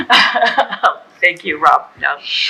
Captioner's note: laughing